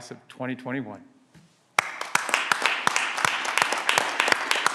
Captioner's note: clapping